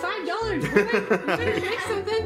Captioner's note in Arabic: ضحك